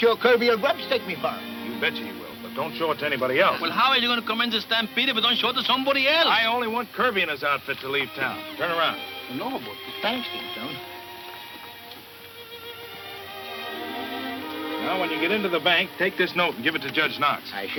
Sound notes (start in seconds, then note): 8.6 Poncho muttering in Spanish; 10.3 peaceful instrumental music